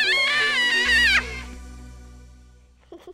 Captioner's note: laughing